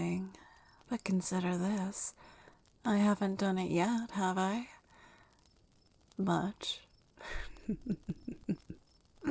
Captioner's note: laughs